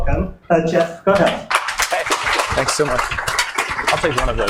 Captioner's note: audience applauds